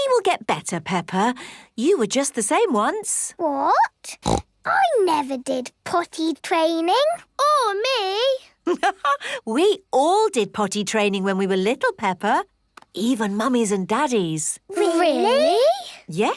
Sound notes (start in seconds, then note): 4.2 snorts; 9.0 laughs